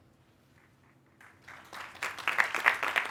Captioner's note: applause